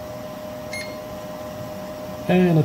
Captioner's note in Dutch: 3D meetmachine piept